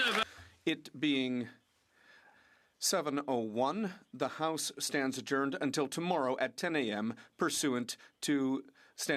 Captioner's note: applause